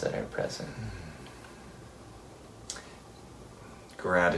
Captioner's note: exhales